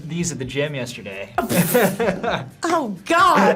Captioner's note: laughs